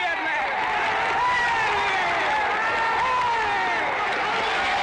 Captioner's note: crowd cheers